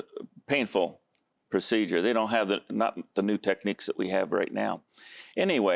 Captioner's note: none